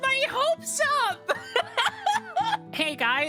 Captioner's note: laughter